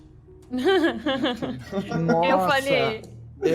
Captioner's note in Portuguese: risos